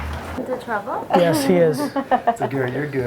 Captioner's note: voiceover; laughing; voiceover